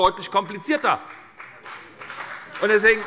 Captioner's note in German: Beifall bei der SPD und bei Abgeordneten der FDP